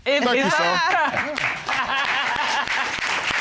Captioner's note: Judge Dana laughs; audience applauds